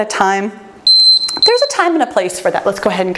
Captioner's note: timer beeps